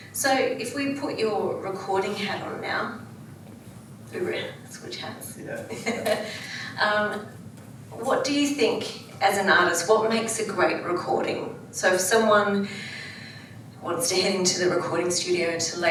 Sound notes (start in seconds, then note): 5.8 laughs